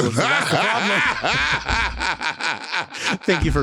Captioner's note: Latrice laughing